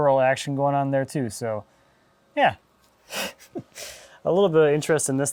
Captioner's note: laughing